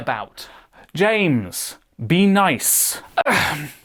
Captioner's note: sigh